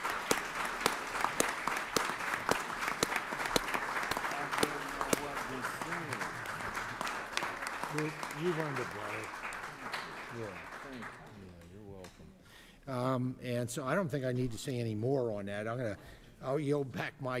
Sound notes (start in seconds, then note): 0.0 applause